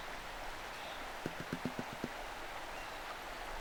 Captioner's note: tap tap tap